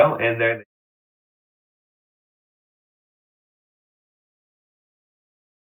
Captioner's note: audio cuts out